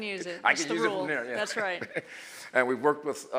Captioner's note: laughs